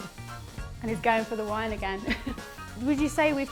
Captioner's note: laughs